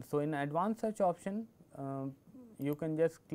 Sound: click

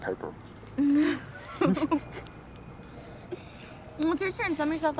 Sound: laughing

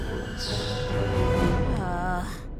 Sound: sighing

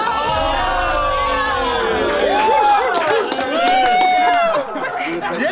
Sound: cheering

